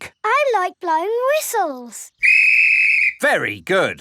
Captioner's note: blows whistle